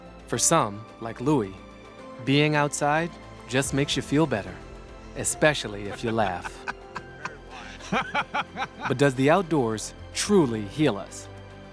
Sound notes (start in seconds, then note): 5.9 Baratunde laughing